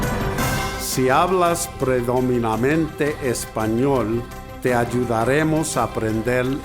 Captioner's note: foreign language